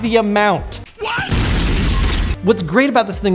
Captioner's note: explosion